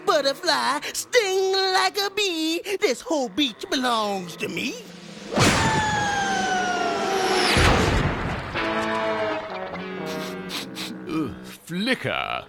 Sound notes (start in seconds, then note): 5.2 blows landing; 10.0 sniffing